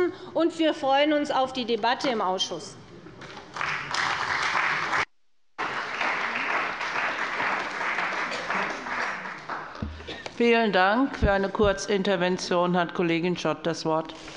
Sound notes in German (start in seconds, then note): 3.6 Beifall bei der CDU und dem BÜNDNIS 90/DIE GRÜNEN